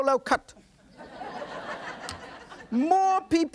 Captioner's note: adience laughs